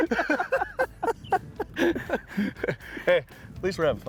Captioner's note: both laughing